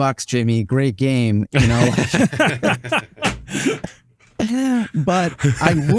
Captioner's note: all laughing